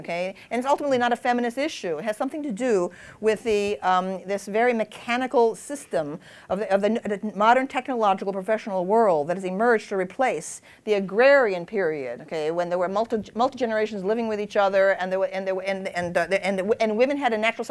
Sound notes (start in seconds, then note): none